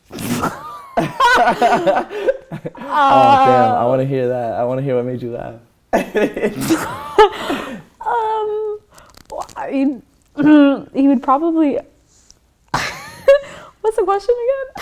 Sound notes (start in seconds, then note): 0.6 laughter; 5.9 laughter; 10.7 stammers